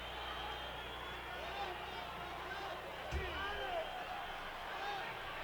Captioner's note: audience chattering